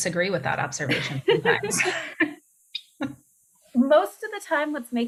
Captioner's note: laughter